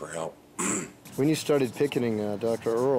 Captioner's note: clears throat